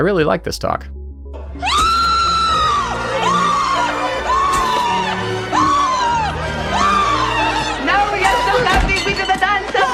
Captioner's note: screaming